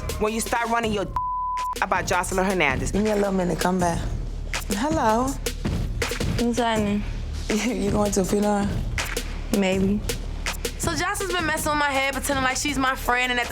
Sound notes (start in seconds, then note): 1.1 beep; 3.1 mumbles